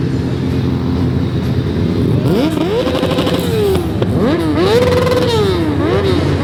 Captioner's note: engine revving